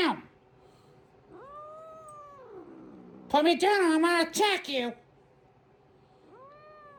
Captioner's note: Caprice growls